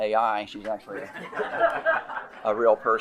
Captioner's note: attendees laughing